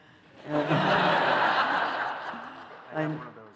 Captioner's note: laughter